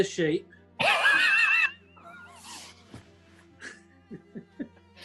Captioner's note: sniggering